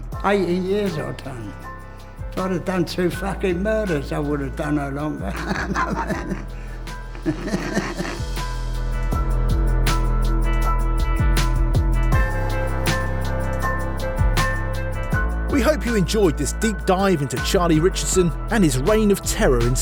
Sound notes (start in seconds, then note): 12.7 laughs